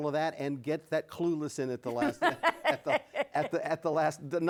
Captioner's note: laughs